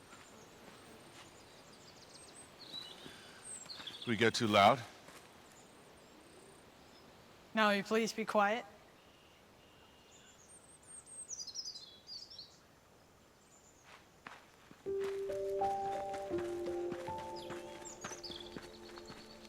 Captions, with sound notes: Did we get too loud? Now will you please be quiet? [birds chirping] [pensive brooding music]